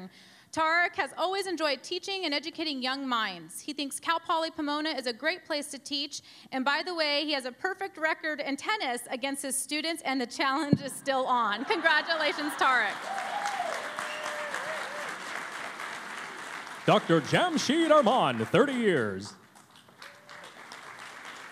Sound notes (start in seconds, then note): 14.2 cheering and Applause